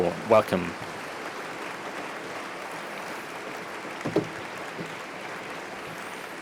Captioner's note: applause